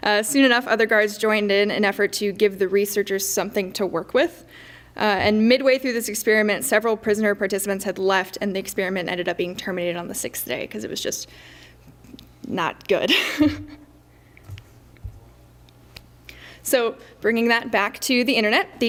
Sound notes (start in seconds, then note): 13.1 laughs